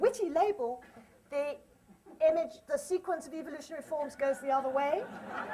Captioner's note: laughter